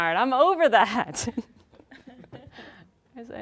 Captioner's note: laughing